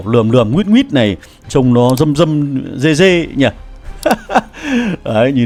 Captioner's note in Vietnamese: tiếng cười